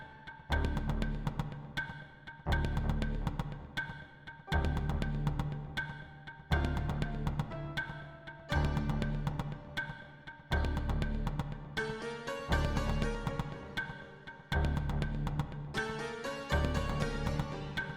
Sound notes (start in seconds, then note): none